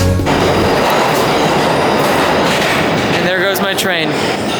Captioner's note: railroad whirrs